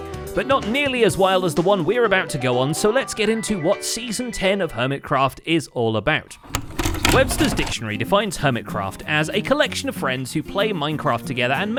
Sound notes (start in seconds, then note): 6.4 VCR sounds